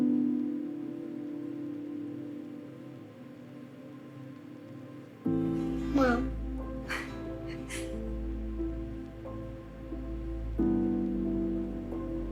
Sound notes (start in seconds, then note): 6.9 Helen laughs